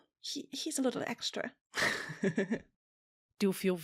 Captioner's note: laughs